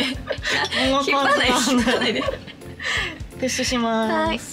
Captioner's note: laughs